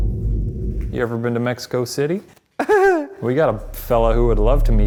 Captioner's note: laughs